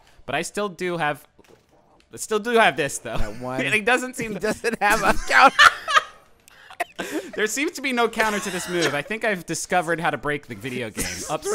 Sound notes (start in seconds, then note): 4.1 laughs; 6.6 both laughing